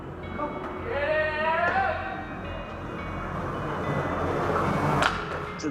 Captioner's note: skateboard wheels gradually growing louder